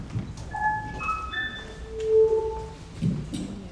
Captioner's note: light beeps